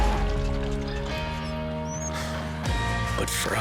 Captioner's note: vehicle skidding